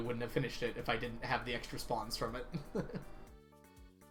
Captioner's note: laughs